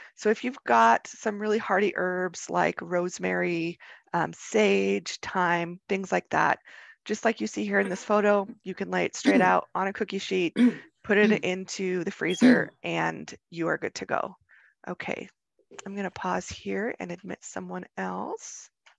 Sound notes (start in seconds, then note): 10.5 woman coughing